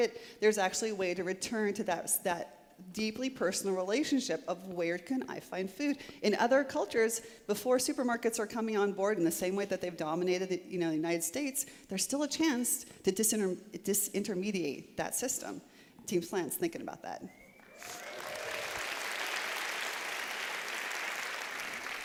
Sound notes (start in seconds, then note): 17.6 applause